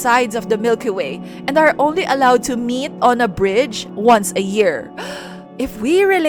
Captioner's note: gasp